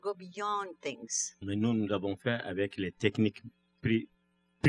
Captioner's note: speaking french